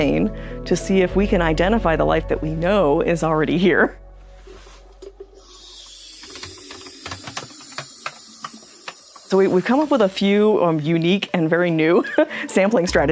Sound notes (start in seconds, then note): 5.4 sound of rushing air filling the sample container; 12.0 laughs